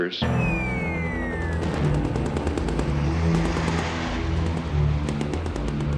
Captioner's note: bombs whistling; gunshots booming; helicopter rotors whirring; somber music